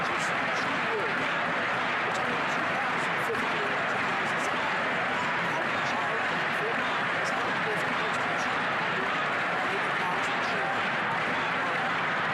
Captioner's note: chanting